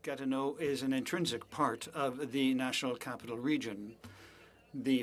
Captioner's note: speaking French